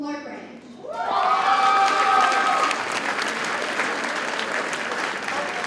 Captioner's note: audience cheers and applauds